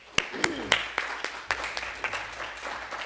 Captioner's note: applause